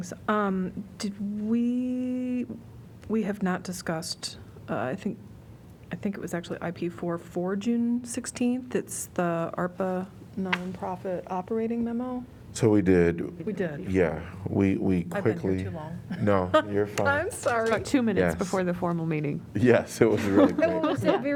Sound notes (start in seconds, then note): 16.1 laughter; 20.0 laughter